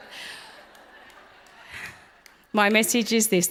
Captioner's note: audience laughs